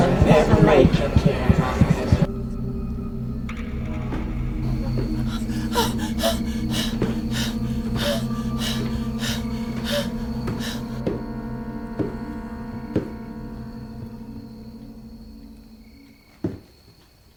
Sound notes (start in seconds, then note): 4.6 Caroline panting; 14.3 insects chirping